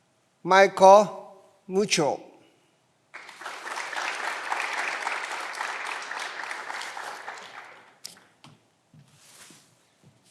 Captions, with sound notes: Michael Michaud. (clapping continues) (footsteps approaching)